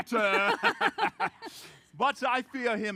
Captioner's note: laughs